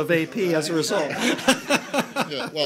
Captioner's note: laughter